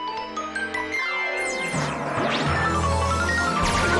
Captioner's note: zapping